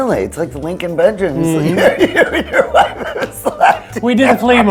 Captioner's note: laughs hysterically